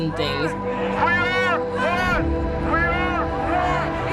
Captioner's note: protestors chanting